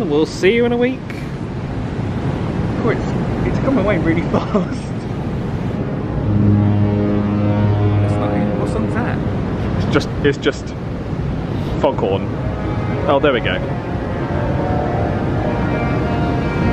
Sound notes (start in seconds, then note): 5.1 ship horn honking; 12.3 pleasant music